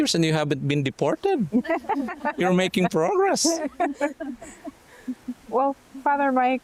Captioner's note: laughter